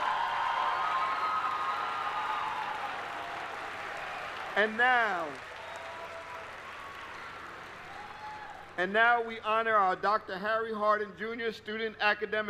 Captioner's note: applause